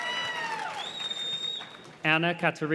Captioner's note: graduates whistle